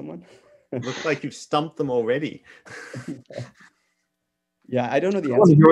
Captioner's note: chuckles